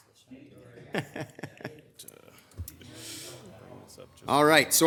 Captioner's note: laughing